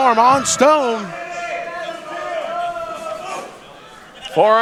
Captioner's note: audience yelling